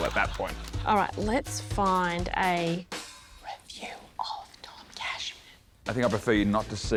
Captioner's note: whispers